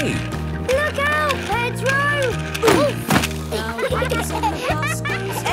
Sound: laughter

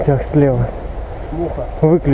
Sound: diesel locomotive

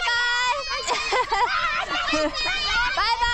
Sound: laughing

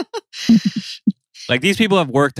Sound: laughs

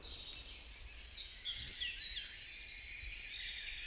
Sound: birds chirping

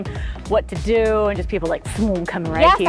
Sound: swoosh

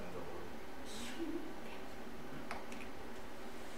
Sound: laughs

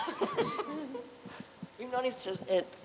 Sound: laughter

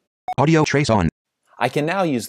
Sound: computer Voice

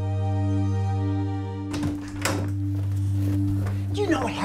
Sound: door opens

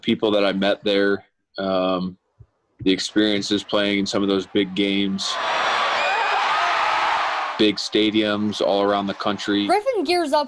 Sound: crowd noise

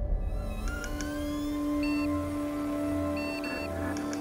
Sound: logo beeping

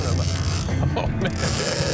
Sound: laughs

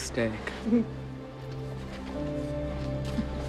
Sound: chuckles

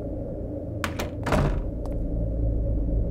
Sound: door closes

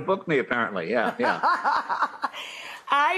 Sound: laughing

